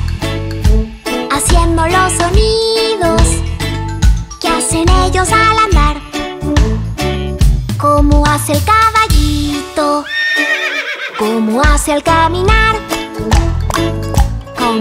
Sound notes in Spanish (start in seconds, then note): 10.0 Sonido de relincho; 12.9 Sonido de pasos